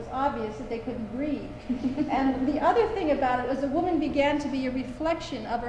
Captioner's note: laughter